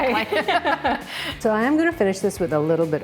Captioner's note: both laughing